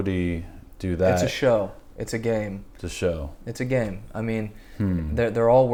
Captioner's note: hmm